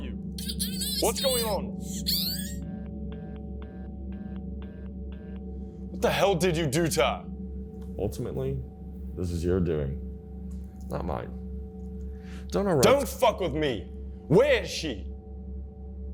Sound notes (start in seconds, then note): 1.8 screams